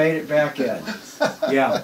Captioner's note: laughs